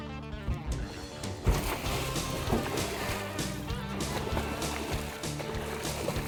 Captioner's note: alligator splashing